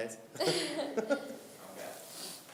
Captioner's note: laughing